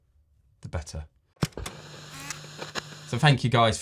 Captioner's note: TV screen hissing